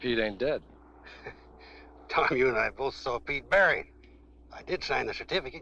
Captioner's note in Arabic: يضحك